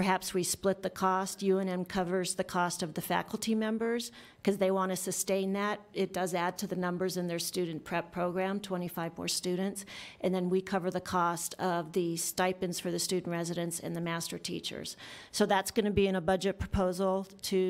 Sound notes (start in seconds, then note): none